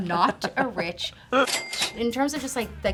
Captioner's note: cash register dinging